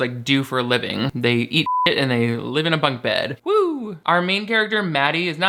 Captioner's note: beep